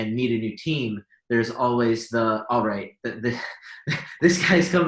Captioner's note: laughs